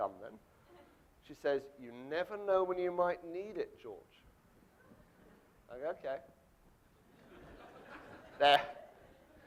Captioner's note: audience laughing